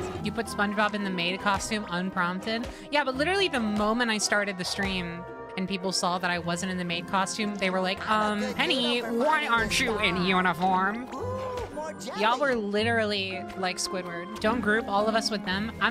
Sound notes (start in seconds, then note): 8.0 Squidward Voice